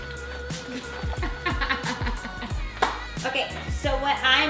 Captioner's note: amused laughing